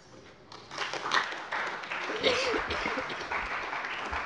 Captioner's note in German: Siehe Anlage 2 - Beifall bei der CDU